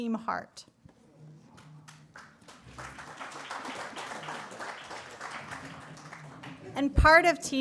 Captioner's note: applause